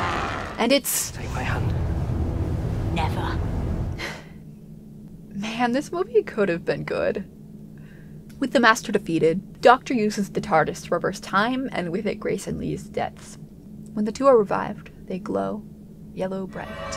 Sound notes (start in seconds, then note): 4.0 sighs